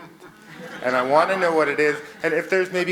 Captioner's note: audience laughs